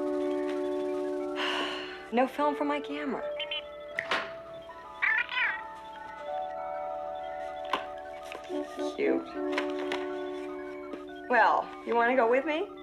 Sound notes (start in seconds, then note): 1.4 sighs; 3.9 Steve Trevor snaps his Fingers